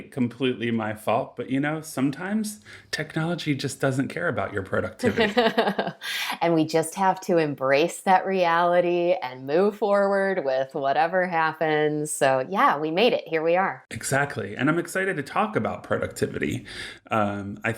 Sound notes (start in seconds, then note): 5.0 laughing